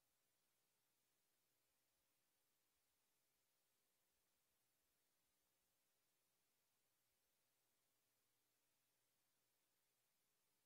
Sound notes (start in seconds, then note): none